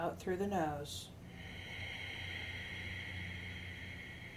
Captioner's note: exhales